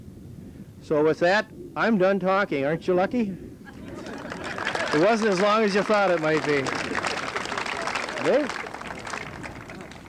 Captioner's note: laughter, applause